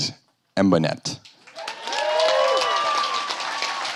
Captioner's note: applause